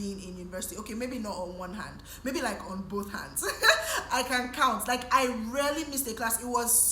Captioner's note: laughs